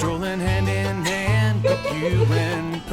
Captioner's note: laughing